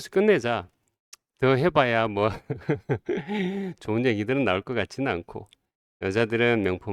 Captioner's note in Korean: 웃음